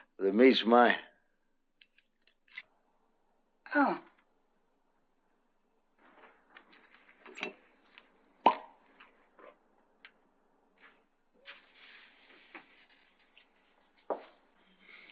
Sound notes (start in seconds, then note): 8.4 cork pops